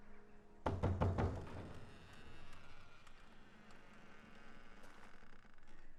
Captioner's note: knocks; door creaks